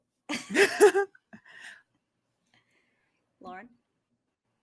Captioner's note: group laughs